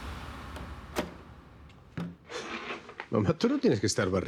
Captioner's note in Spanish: Sonido al abrir la puerta